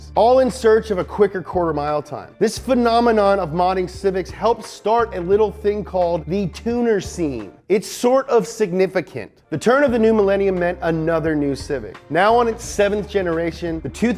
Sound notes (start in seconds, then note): none